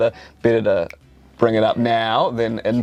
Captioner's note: snaps fingers